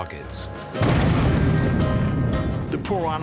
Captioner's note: explosion